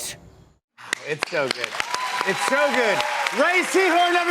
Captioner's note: cheers and applause